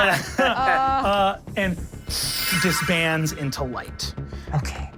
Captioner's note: everyone laughs; suctioning sound